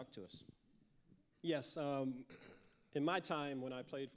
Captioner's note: clears throat